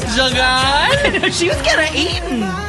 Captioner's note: laughs